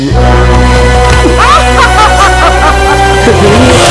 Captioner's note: Laughs